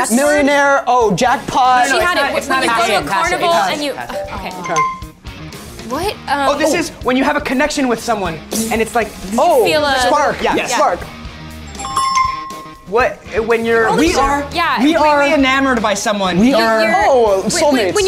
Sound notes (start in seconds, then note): 11.6 app chimes